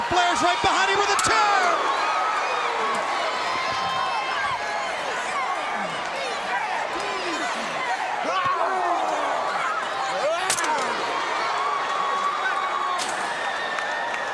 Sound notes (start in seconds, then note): 2.0 crowd cheering